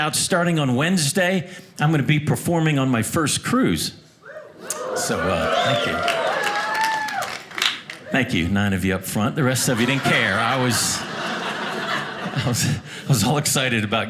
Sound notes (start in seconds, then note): 4.3 audience cheering; 9.4 audience laughing